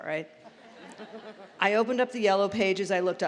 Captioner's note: laughter